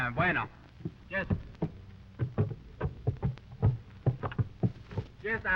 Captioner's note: Pablo speaking in foreign language